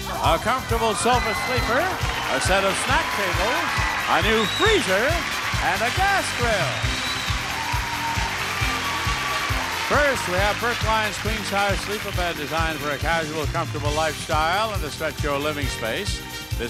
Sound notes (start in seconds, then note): 6.9 audience applauding